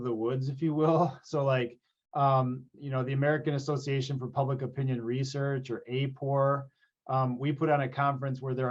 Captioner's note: laughs